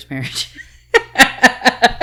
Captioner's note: laughing